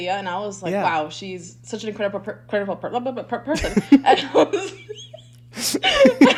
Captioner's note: both laughing